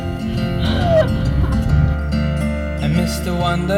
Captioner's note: laughs